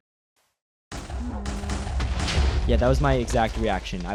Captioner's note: TNT exploding